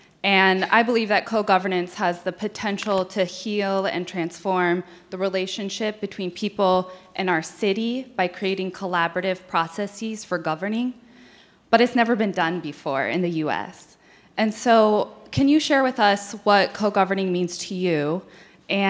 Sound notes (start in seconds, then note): none